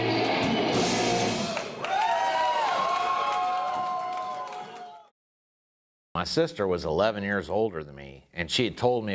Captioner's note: applause